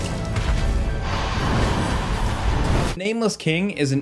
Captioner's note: dragon roars